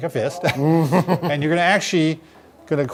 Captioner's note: chuckles